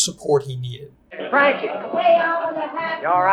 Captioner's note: people chattering